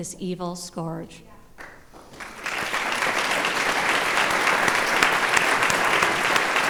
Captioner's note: applause